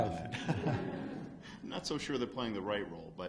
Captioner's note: laughs